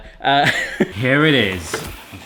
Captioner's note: laughing